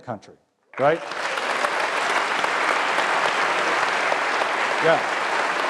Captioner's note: applause